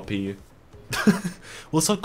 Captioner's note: laughing